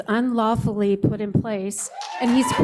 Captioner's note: cheers, applause